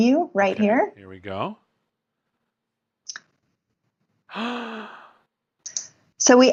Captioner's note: gasping